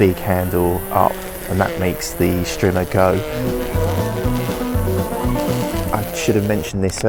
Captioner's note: trimmer noise